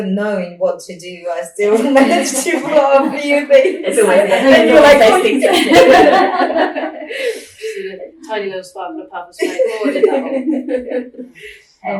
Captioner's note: laughing